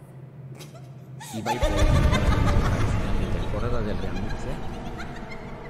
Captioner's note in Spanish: ríe de forma malévola